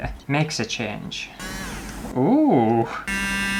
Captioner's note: buzz